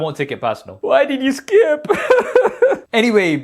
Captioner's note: sobbing